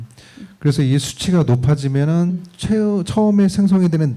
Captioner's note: speaking korean